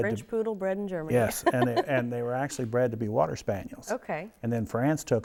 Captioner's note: chuckles